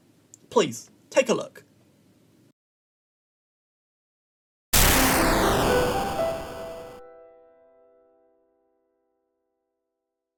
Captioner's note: video game explosion sound